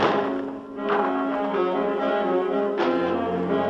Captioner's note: gun fires